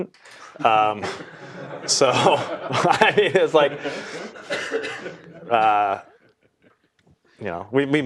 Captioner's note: laugh